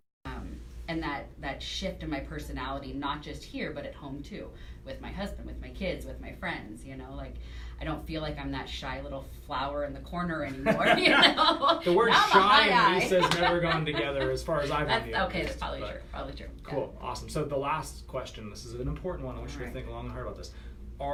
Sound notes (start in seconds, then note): 10.5 laughter